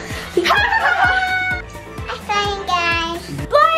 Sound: laughing

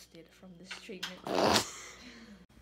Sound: laughs

